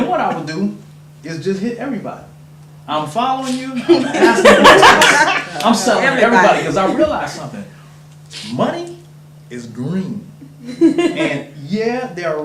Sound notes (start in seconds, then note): 3.8 audience laughter